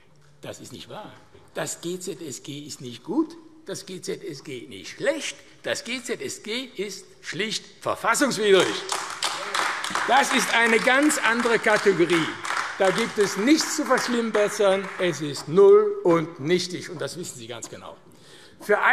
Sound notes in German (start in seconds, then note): 8.6 Beifall AfD